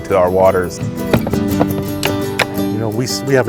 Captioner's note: case click shut